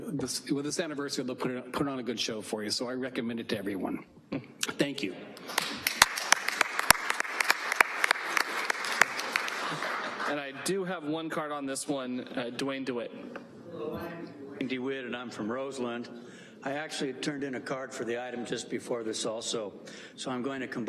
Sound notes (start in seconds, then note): 9.5 applause